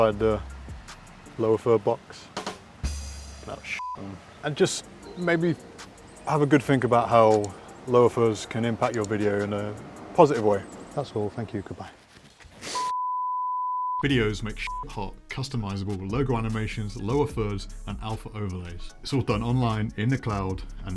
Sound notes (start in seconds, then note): 2.8 ba Dum Tss Joke Drum; 12.7 beeping tone; 12.8 beep